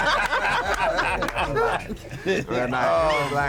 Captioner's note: laughter